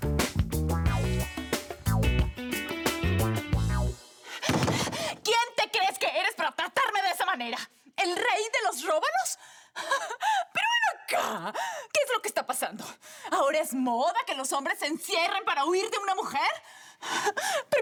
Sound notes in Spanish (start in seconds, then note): 4.5 Toques en la puerta